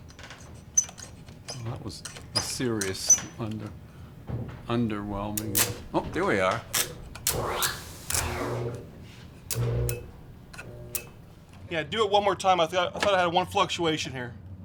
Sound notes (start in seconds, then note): 0.3 breaker squeaking; 4.9 electricity buzzes